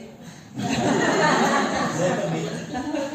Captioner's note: laughter from the audience